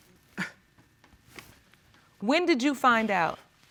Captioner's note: scoffs